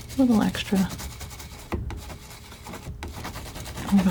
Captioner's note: scratching